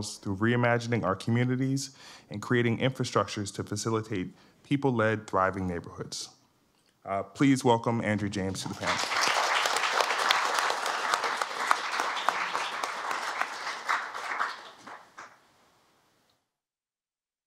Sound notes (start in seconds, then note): 8.6 applause